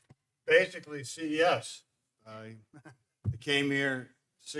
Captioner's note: chuckles